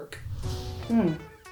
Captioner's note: whooshing